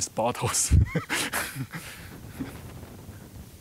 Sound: laughing

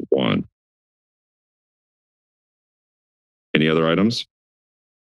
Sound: silence

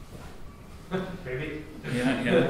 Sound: chuckles

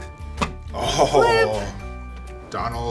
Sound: chuckles

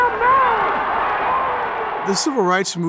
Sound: crowd cheering

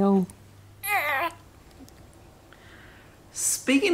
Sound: giggles

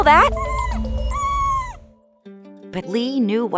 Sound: whimpering

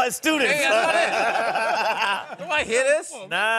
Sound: laughing

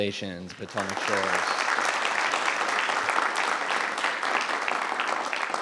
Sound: audience applauding

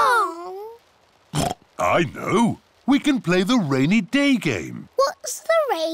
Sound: oinks

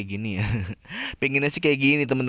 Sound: laughs

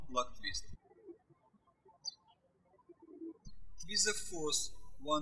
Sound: birds chirping

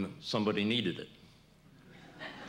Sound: laughter

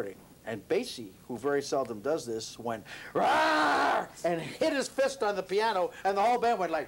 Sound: screams

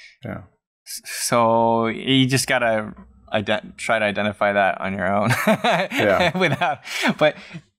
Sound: laughter

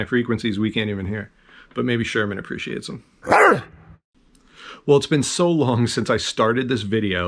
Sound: bark

